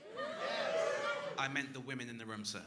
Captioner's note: crowd wooing